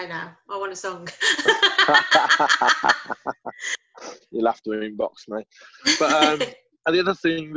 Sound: laughter

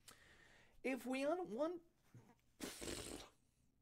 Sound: blows raspberry

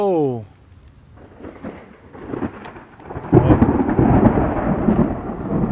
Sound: thunder rumbling

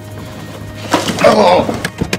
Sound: grunting noise

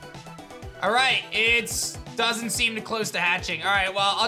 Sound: none

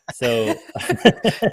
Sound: laughter

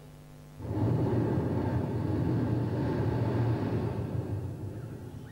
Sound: shri mataji blows into the microphone

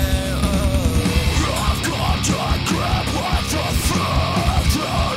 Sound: screams

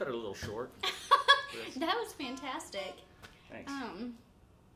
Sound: giggling

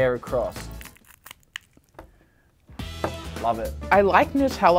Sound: packaging tearing

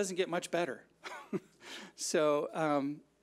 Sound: chuckles

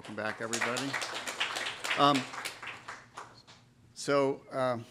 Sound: applause

